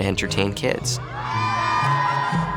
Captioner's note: children cheering